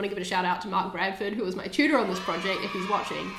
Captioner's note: cheering